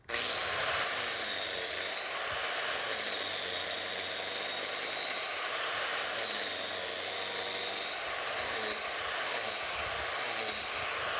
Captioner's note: grinder running